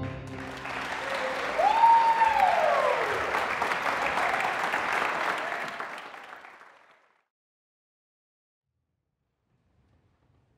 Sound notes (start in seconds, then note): 0.0 music stops; 0.2 audience applause